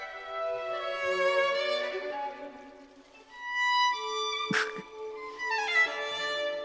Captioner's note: grits teeth